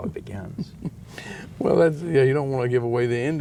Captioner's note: laughs